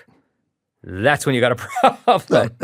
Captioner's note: laughing